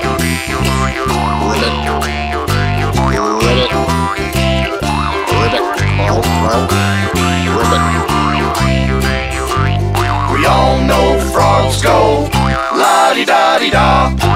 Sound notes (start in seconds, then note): 1.5 ribbit!; 3.4 ribbit!; 5.3 ribbit!; 6.2 gulp! gulp! ribbit!